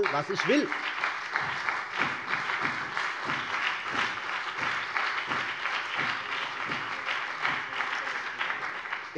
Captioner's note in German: Beifall CDU und BÜNDNIS 90/DIE GRÜNEN